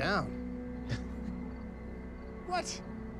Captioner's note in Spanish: Risas